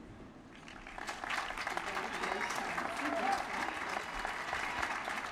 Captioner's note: applause